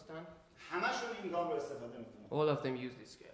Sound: speaking in farsi

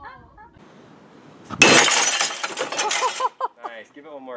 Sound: glass shatters

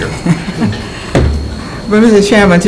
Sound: laughter

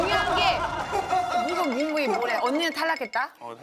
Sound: shivering

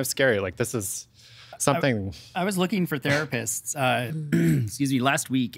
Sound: clearing throat

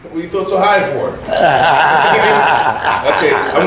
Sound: laughter

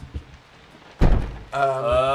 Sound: thud on door

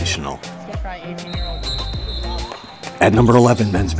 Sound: whistle being blown

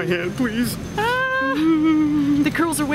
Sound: playfully fearful crying

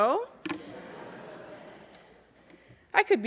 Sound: laughter

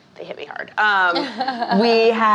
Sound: laughing

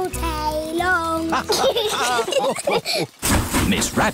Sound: laughter

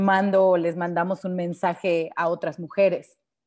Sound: speaking Spanish

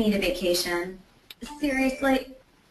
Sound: phone chiming

